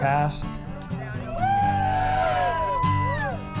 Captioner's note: cheering